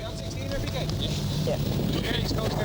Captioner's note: rescuers chatting